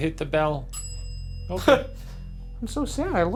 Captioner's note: bell ringing